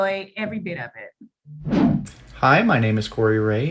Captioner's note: transition swooshing